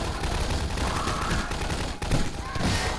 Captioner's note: gunfight sounds; death sound